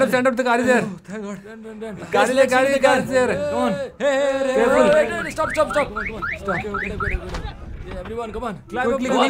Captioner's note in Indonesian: Suara mobil